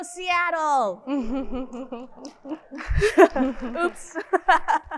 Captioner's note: narrator laughing